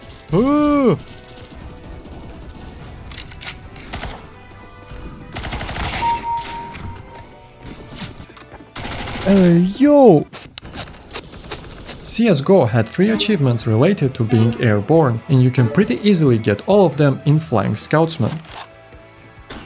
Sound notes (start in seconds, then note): 2.9 sussy noises